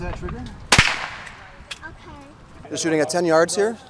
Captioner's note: gun bangs